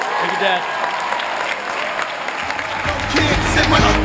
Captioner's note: applause